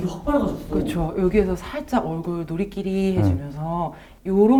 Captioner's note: warm tone